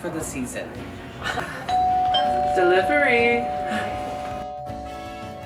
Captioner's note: doorbell